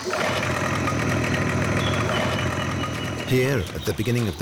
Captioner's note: motor revving